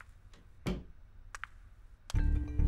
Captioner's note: Door opens